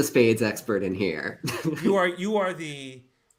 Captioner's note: laughs